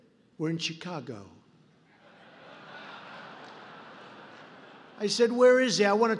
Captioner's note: laughter